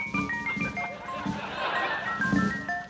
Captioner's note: footsteps pattering; Palaver crashing